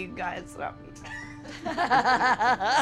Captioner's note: laughing